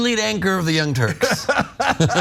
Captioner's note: laugh